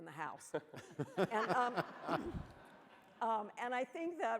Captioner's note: laughing